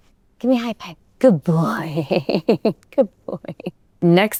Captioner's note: chuckling